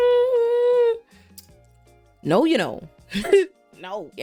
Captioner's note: hums